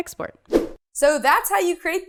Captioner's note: swoosh